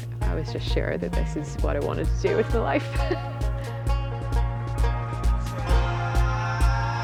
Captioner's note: laughs